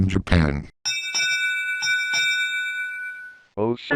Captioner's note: Wheel of Fortune Final Spin bell